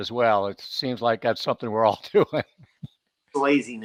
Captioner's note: chuckles